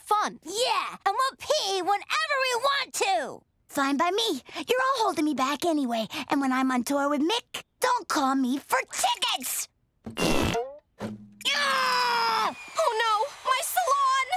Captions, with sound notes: Yeah, and we'll pee whenever we want to! Fine by me, you're all holding me back anyway. And when I'm on tour with Mick, don't call me for tickets! [farting sound] [growling] Oh, no! My salon!